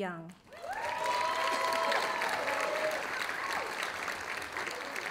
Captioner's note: audience applauding